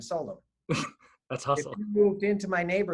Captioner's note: laughing